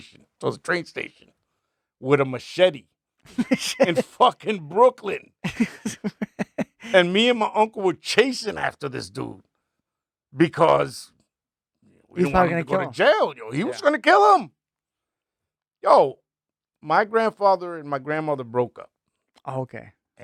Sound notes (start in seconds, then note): 5.4 laughing